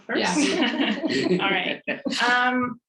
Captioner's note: laughs